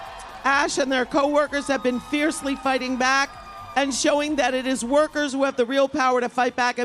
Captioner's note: applause